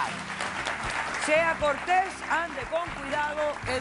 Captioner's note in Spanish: aplausos